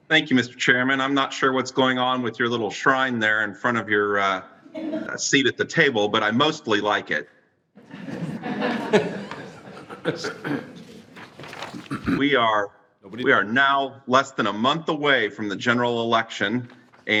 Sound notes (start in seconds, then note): 7.8 all laughing